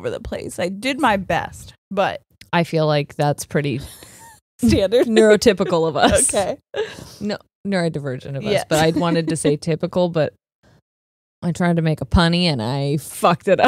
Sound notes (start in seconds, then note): 4.7 laughs; 8.5 laughs